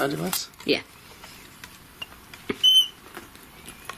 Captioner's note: beeping